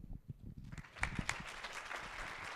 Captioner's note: applause